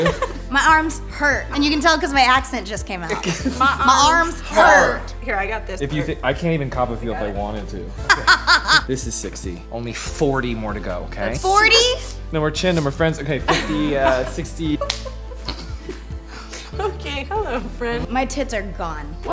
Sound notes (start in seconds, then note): 2.9 all imitating accent; 8.0 laughs